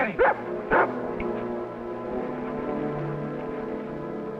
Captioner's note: Rebel barking